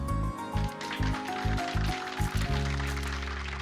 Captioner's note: audience applauding